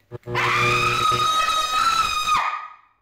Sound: light buzzes; screams

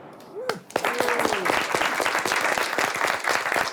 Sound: all clap

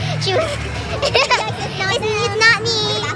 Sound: laughing

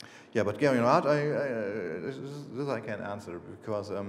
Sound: speaking foreign language

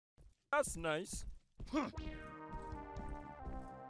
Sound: grunting

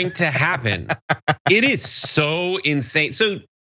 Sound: laugh

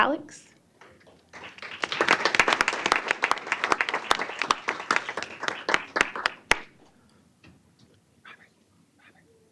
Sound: applause

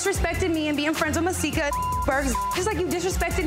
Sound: beep

